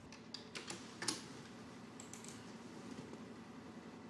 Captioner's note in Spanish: Tecleo